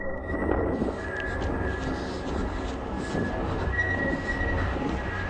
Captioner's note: shooter panting